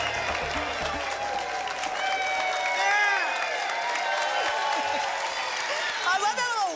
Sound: applause and cheering cont

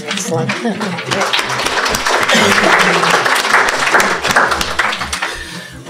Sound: applause

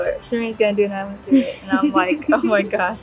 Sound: chuckling

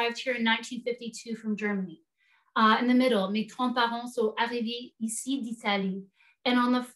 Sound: talking French

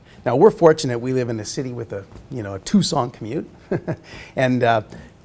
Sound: chuckling

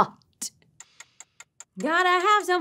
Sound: clock ticking

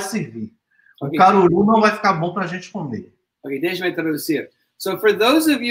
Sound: speaks portuguese

